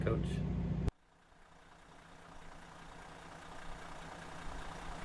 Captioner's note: engine noises